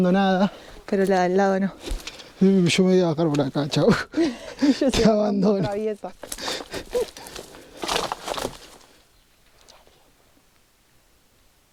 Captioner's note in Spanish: risas